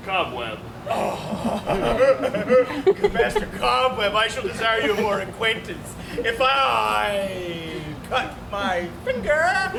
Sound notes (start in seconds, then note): 0.9 laughs